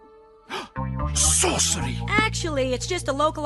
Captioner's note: gasps